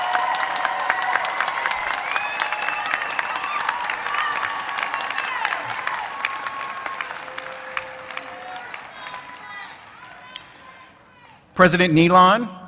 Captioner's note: applause